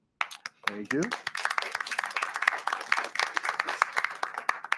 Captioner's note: audience clapping